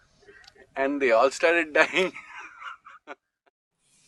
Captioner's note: laughs